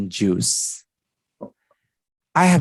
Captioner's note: silence